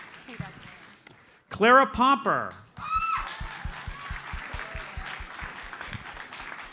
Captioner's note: audience applauds